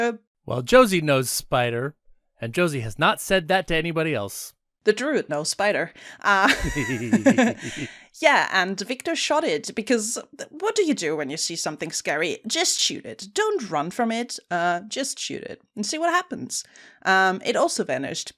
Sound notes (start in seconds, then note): 6.4 laughs; 6.4 giggles